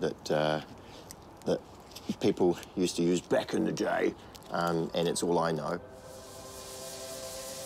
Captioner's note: gruffly